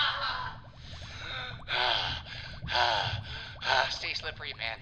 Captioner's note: breathing heavily